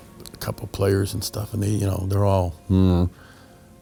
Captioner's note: grumbles